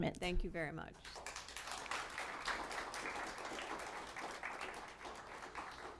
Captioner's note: applause